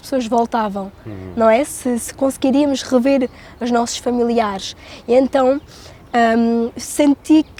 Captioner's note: speaking in Portuguese